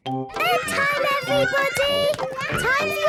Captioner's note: children playing